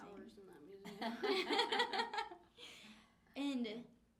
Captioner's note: laughing